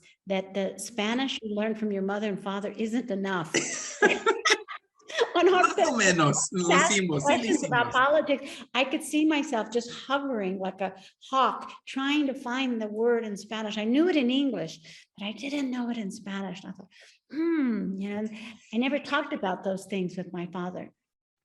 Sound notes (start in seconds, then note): 0.0 speaks Spanish; 3.5 both laughing; 5.5 speaking Spanish